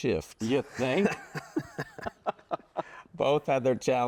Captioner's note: laugh